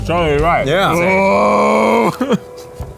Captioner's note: laughs